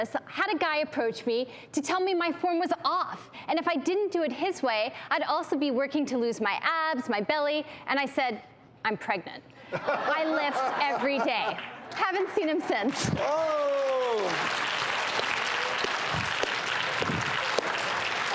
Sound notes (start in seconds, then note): 13.0 audience claps